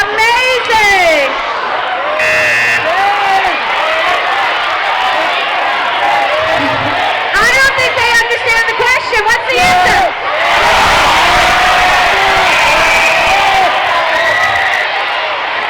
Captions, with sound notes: - Amazing! (buzzing) I don't think they understand the question. What's the answer? (crowd shouting)